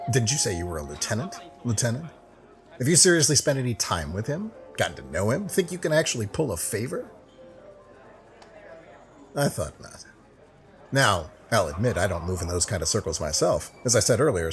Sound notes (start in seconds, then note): 7.2 silence